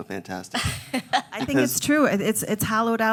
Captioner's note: laughs